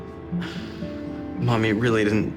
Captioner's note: sighs